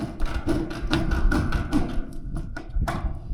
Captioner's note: metal cutting